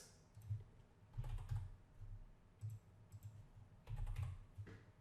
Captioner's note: typing clicks